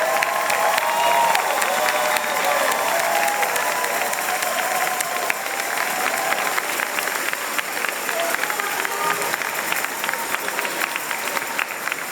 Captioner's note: applause and cheers